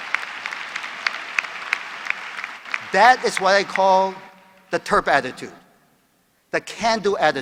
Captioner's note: applause